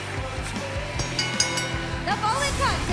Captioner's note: bell ringing